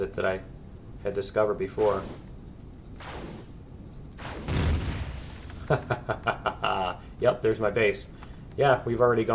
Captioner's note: plasma cannons firing; explosion; laughs